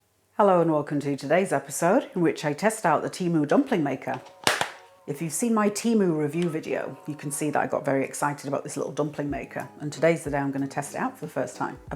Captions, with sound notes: Hello, and welcome to today's episode, in which I test out the Temu dumpling maker! [CLICK CLICK] If you've seen my Temu review video, you can see that I got very excited about this little dumpling maker, and today's the day I'm going to test it out for the first time